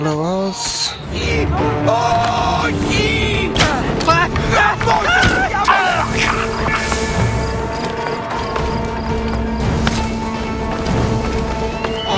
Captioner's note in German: schreien